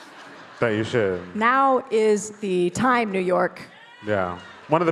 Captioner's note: crowd cheers